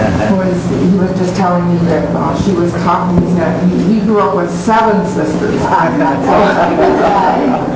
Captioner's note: laughing